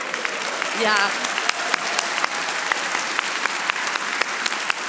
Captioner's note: audience applauding